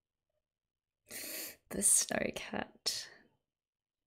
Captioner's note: sharp intake of breath